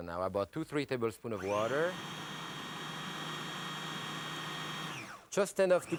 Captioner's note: food processor whirring